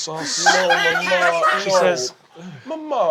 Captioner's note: cast laughing